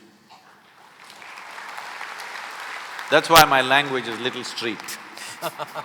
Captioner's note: applause; both laugh